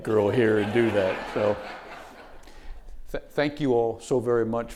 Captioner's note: audience laughing